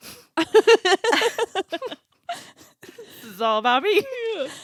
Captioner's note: laughing